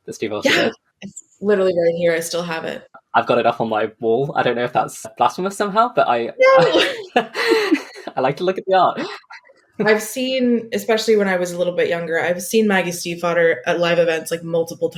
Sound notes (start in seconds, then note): 5.8 laughing; 5.8 laughs